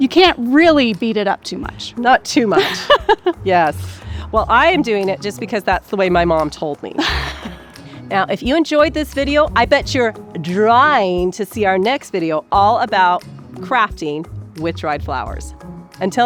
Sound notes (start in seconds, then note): 2.4 laughs